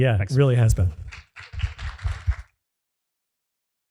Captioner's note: applause